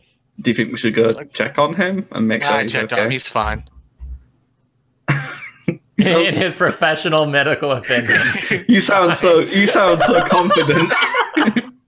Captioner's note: laughter